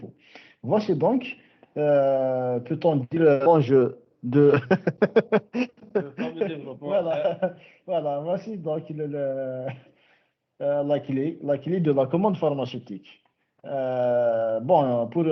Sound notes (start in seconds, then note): 4.4 laughs